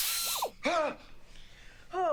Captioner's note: whirring; gasps